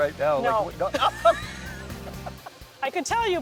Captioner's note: laughs; chuckles